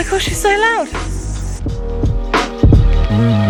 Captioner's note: crickets chirping; mellow music